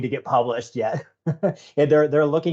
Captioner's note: chuckling